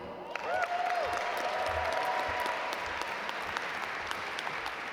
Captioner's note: audience applaud